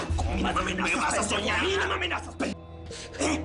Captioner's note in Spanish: Hablan al unísono